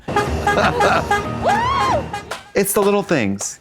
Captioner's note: train horn honking